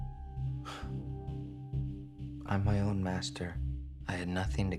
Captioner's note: scoffs